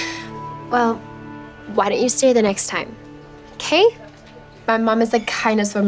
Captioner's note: laughs